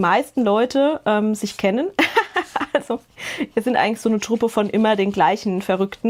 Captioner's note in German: Gelächter